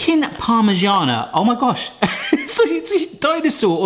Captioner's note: laughs